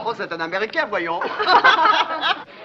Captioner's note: all laugh